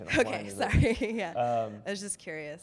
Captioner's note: laughs; voiceover